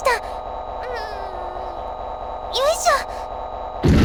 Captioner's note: lifting grunts